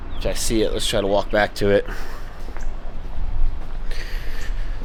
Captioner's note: footsteps